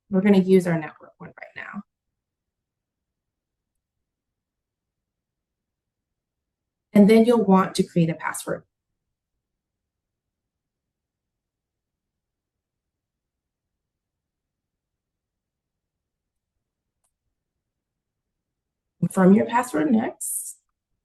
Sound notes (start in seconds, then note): 12.0 silence